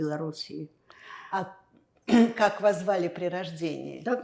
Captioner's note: clears throat